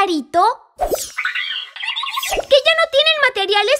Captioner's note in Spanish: Sonido de pajarito